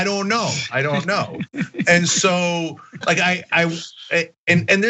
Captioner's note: laugh